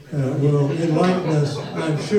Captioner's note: audience laughs